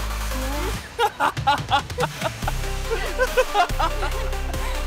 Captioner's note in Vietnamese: Tiếng cười